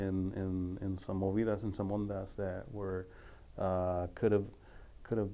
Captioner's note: speaking foreign language